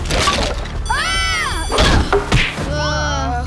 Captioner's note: screaming